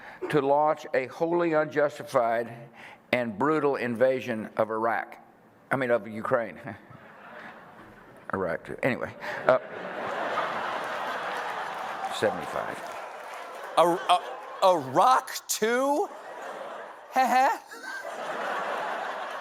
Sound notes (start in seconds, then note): 5.7 laughs; 9.3 laughter